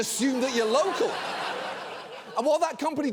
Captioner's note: audience laughs